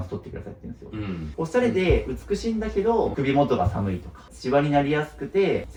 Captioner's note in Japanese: 咳払い